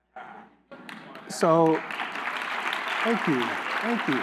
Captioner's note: applause